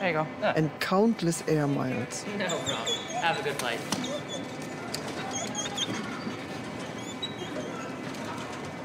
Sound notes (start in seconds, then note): 4.3 dogs whining